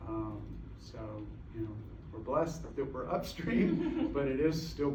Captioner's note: laughter